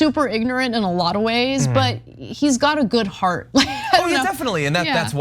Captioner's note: laugh